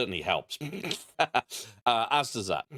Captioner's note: laughter